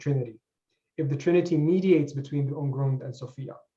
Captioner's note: german